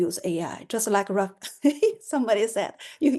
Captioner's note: laughter